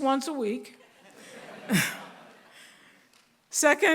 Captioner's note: laughter